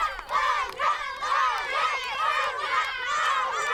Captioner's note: Vítores